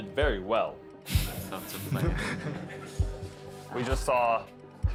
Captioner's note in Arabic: دينغ يضحك